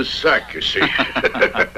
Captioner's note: laughing